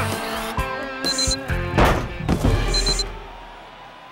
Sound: beeping

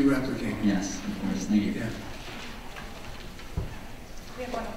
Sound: voiceover

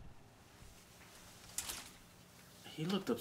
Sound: hangers clicking

